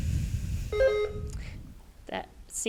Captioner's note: bell rings